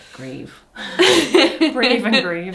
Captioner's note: both laugh